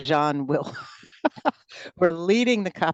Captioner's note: laughter